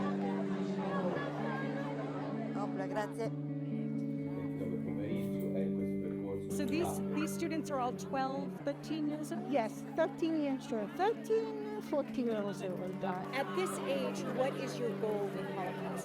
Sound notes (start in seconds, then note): 3.2 speaking in foreign language